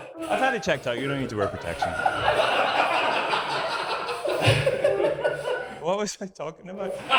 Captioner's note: audience laughs in horror; audience laughs in misery